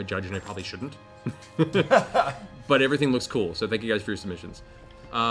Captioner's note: laughs